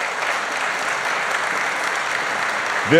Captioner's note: applause